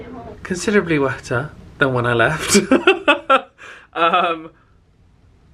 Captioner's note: laughs